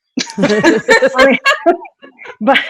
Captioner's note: laughing